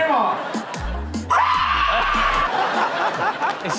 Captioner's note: audience and hosts laugh; grandma screams